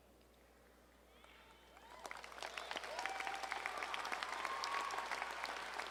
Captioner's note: audience cheering and applauding